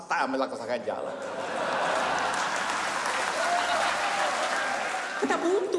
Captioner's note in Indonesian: tawa dan tepuk tangan